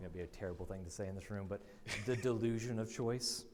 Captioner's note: laughs